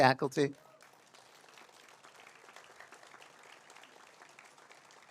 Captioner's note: audience applauds